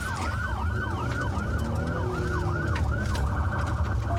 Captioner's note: engine guns